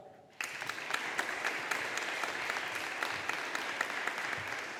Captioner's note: audience applauding